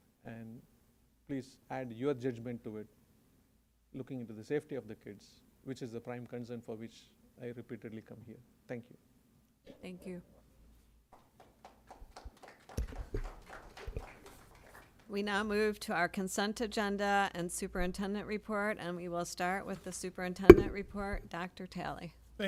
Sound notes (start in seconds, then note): 11.1 applause